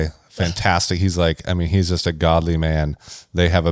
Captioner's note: laughs